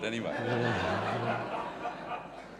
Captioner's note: audience laughs